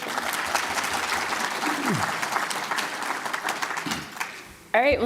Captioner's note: applause